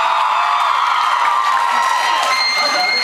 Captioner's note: cheers, applauds